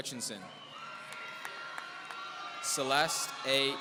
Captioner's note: audience cheering